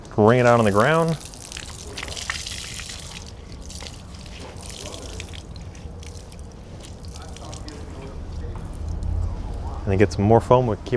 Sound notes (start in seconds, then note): 1.6 men chatting; 1.6 water splashing